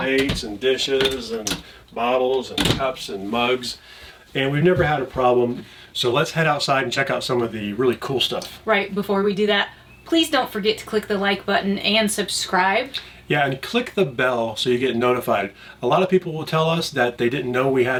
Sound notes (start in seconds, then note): none